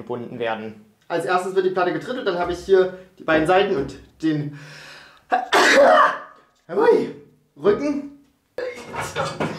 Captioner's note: hatschum